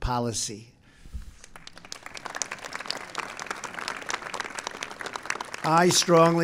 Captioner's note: applause